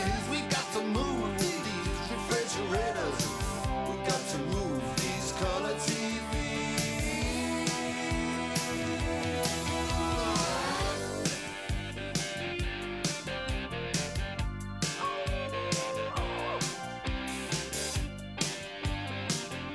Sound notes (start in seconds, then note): 14.9 dog howls; 17.2 rock music